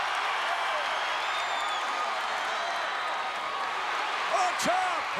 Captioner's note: applause